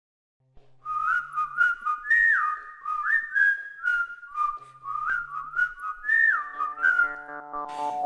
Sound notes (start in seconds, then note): 0.8 whistling